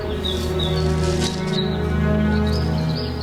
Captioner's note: birds chirping; enchanting music